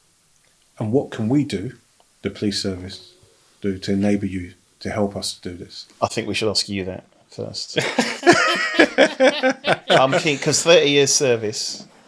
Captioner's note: laughing